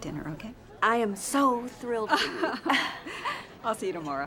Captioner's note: laughs